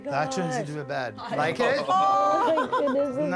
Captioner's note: all laughing